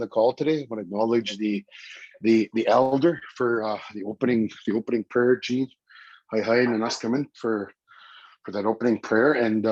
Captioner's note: foreign language